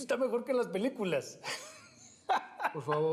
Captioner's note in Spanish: risas